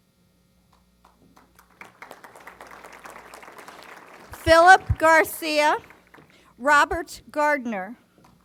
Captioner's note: applause